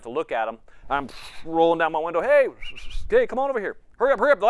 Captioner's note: whistles